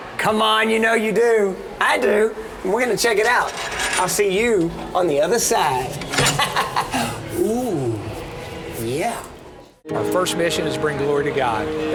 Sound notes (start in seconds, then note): 6.2 laughs